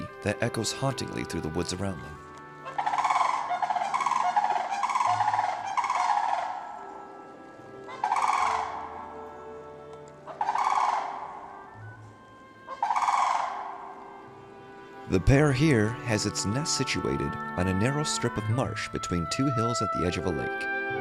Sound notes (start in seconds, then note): 2.5 echoing bird calling